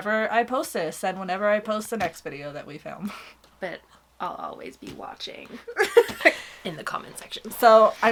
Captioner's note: laughs